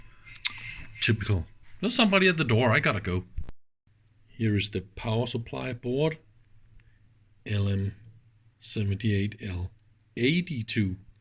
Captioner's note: ring